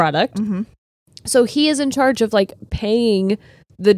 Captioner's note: none